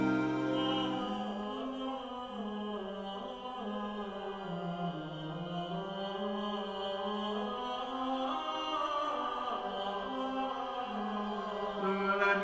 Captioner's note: chanting